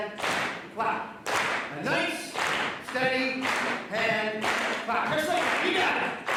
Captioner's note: audience claps rhythmically